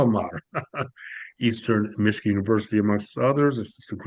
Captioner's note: laughs